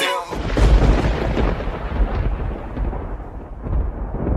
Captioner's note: thunder crashing